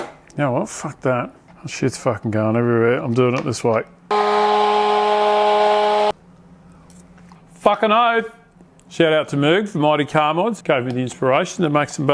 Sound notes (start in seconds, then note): 4.1 mixer buzzing